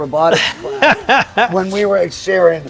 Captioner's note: laughs